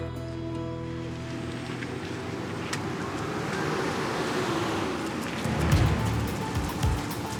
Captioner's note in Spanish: Ruido del coche llegando